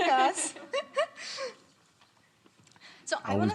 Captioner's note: laughing